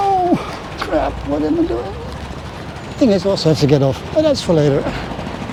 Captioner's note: old man noises